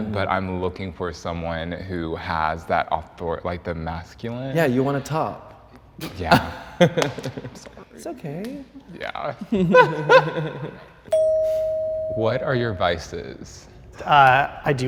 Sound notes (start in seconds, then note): 6.3 laughs; 9.4 and contestant laughs; 11.1 bell dings